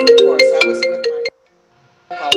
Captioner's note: phone ringing